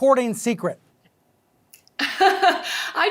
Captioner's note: laughing